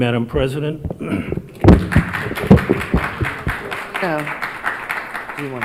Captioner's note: audience applauds